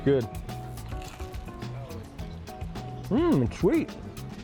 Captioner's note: food crunching